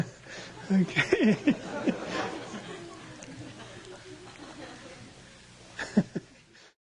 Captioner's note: laughs, laughter